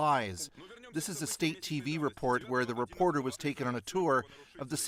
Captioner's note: speaking russian